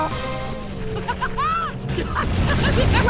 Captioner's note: laughing